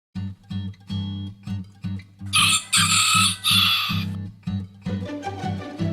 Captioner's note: rooster crowing; gentle music